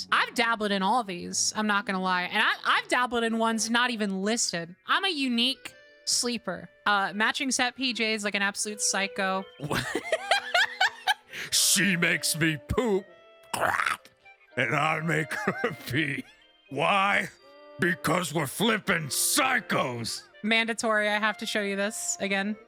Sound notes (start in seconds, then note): 9.6 laughter; 13.5 guttural Noise